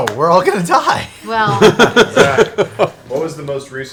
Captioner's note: laughs